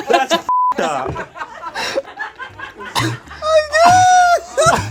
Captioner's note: group laughs